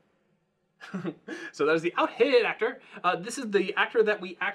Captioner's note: laughing